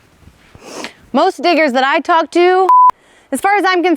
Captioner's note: beep